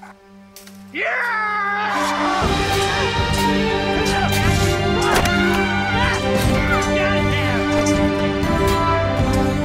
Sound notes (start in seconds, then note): 0.9 Fordwin yelling; 2.6 swords clanging; 5.1 Edelle yelling; 7.1 intense music